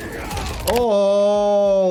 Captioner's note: bones crunching